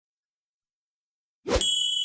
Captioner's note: wind rushing; bell ringing